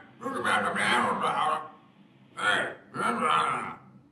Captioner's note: electronic speech